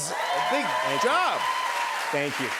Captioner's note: cheers and applause